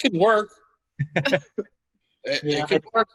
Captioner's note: laughing